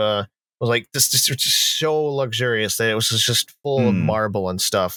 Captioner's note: stammers